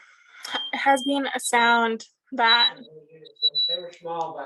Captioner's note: sparrow squeaking